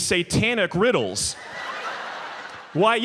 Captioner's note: audience laughs